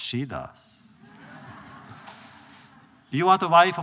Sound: laughter

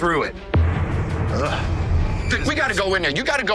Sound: shudders

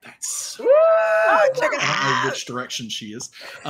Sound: group cheers

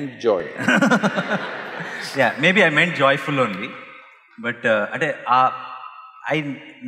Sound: laughter; laughs

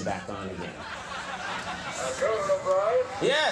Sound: crowd laughs

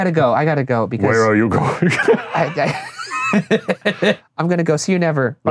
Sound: laughing

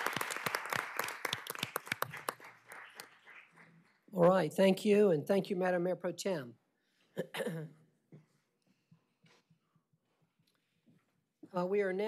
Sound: applause

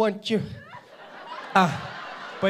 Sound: audience laughing

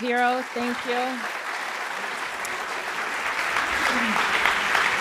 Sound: applauding

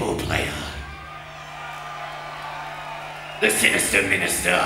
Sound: audience cheering

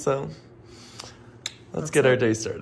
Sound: kisses

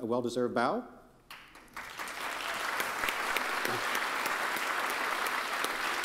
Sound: audience applauding

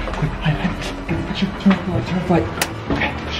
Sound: click

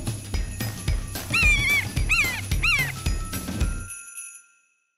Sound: bird cackles

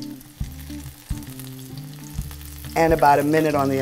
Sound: sizzling

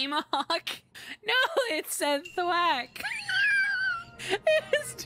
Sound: laughter

